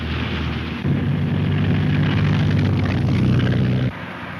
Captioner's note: car engine revs